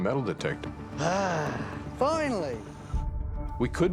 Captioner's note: sighs